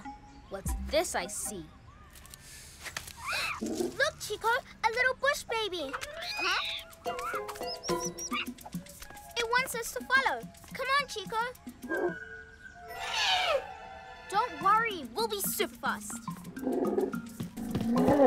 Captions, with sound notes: Huh. What's this I see? - (Chitters softly) - Look, Chico! A little bush baby! Huh? (Squeaky chittering) It wants us to follow! Come on, Chico. (Trumpets nervously) Don't worry. We'll be super fast. (Soft trumpeting)